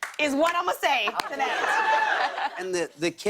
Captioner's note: laughter